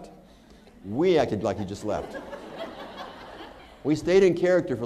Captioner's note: laughter